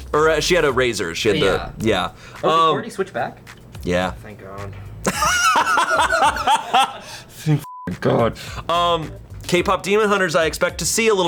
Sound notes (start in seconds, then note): 5.0 and colleagues laughing; 7.7 beeps